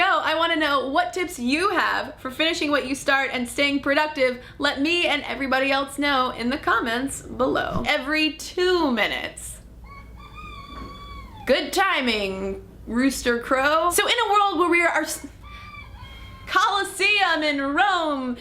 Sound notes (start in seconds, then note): 9.8 rooster crowing; 15.4 rooster crow